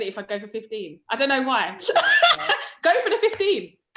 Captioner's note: laughs